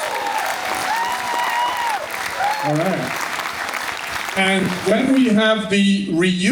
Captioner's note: cheering